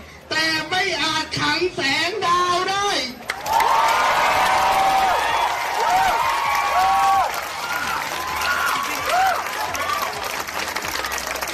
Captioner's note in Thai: ปรบมือ